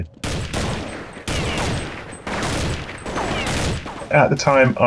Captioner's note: gunshots blasting